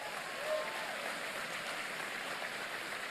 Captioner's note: applause